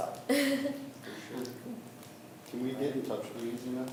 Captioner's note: laughs